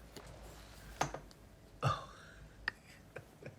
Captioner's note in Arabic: ضحكة مكتومة